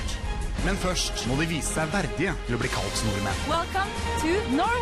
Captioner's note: norwegian narration